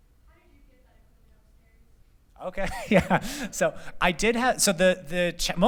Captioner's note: laughter